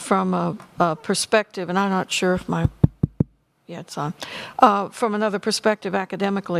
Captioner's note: tapping on microphone